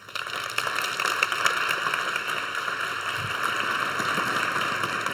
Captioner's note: audience applauds